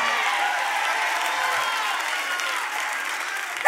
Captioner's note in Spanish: Aplausos